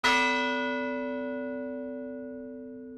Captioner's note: bell dings